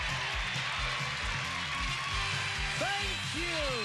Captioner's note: cheers and applause